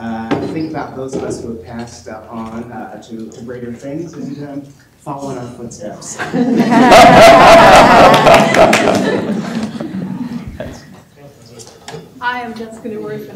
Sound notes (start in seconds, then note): 6.1 laughter